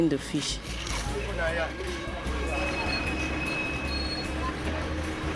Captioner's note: chattering in foreign language